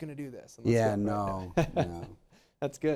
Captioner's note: laughs